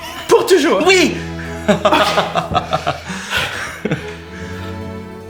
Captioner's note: Riz'shar laughs, delighted